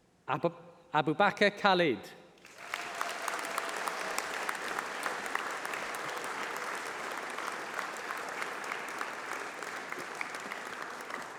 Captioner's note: applause